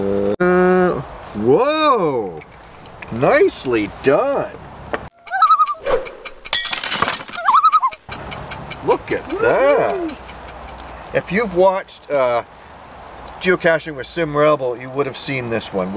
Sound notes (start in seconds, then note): 5.1 loon call; 7.4 loon call